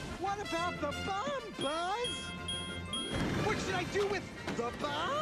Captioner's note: beeping